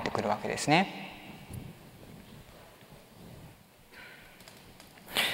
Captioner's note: silence